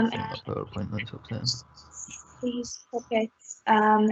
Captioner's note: audio distorts 43.09